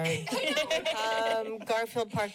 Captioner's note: laughter